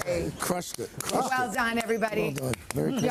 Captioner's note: applause